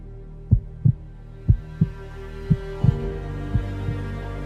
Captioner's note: heart beating